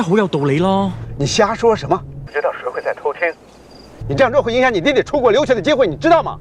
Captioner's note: Martin speaking in foreign language; man speaking in foreign language